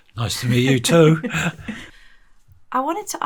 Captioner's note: both chuckling